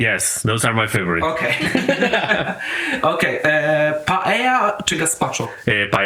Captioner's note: laughs